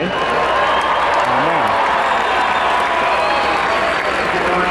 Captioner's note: spectators cheering